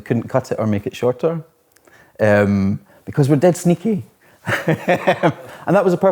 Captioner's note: laughs